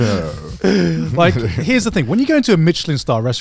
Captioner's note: group laughs